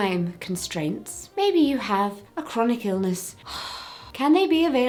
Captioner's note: sighs